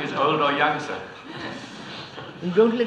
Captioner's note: laughter